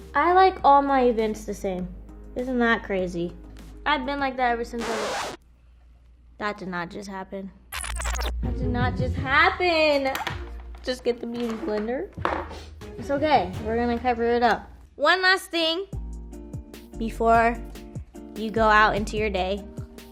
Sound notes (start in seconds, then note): 4.7 record scratching; 7.8 audio reversing